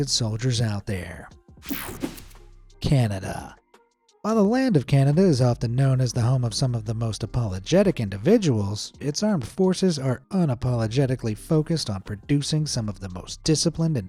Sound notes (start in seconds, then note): 1.6 swoshing